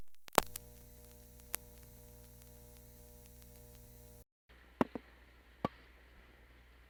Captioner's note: faint buzzing comes back; ksssh, thhip, pop